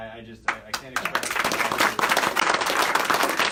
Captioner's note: applause